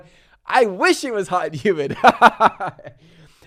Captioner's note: laughs